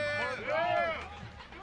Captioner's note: shouting